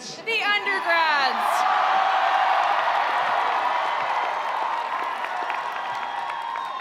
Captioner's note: attendees cheering; attendees applauding